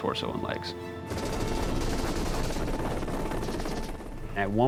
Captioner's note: wind blowing from helicopter